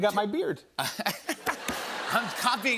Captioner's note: laughter